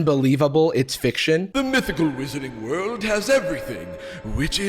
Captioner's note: Gandalf voice